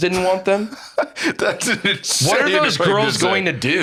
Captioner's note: laughs